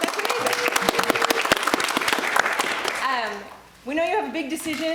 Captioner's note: everyone applauding